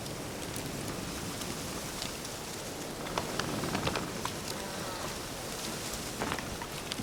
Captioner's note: wind, leaves rustling